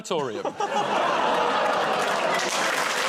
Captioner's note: audience groans; applause